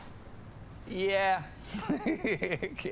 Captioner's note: laughs